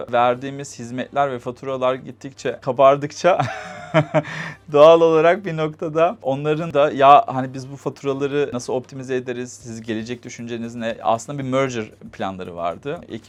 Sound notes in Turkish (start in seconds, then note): 3.4 kahkaha